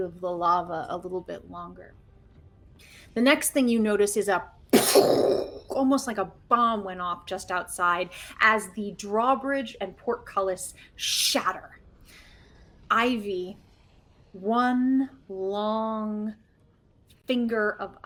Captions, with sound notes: of the lava a little bit longer. The next thing you notice is a (imitates explosion) almost like a bomb went off just outside as the drawbridge and portcullis shatter. Ivy, one long finger of ice comes aside,